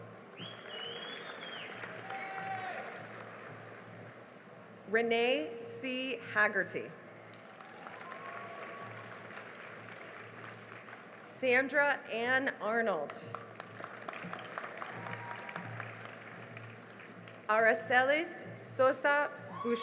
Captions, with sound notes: [CHEERING AND APPLAUSE] Renee C. Haggerty [CHEERING AND APPLAUSE] Sandra Ann Arnold [CHEERING AND APPLAUSE] Aracelis Sosa Boucher